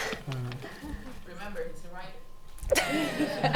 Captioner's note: voiceover; laughing